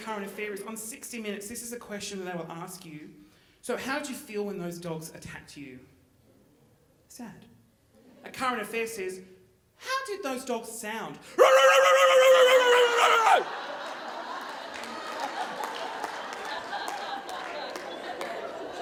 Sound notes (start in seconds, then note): 11.4 imitates dog barking; 12.8 audience laughing; 14.3 audience clapping